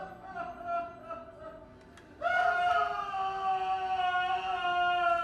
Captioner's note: Wags sobbing and wailing